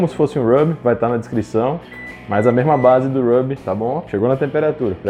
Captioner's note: beeps